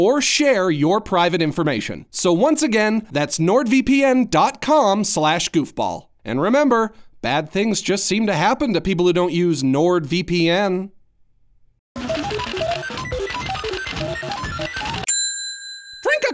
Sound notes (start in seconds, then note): 11.9 computer calculating; 15.1 computer chimes